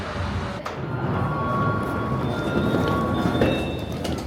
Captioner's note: doors chiming